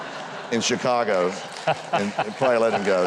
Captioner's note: Huckabee and audience laughs